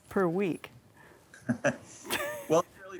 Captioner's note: both laughing